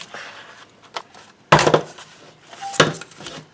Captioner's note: thud sounds